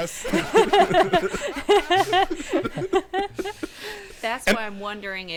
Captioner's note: everyone laughing